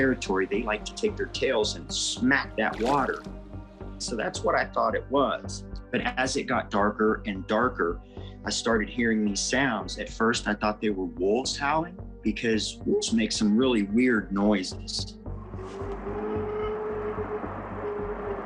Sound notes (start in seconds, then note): 2.5 water splashing; 15.0 suspenseful music; 15.4 howling